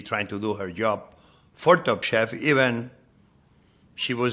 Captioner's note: none